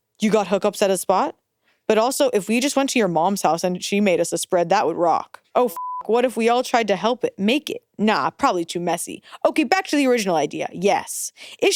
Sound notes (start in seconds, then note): 5.7 beeps